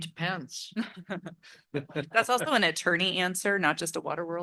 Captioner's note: laugh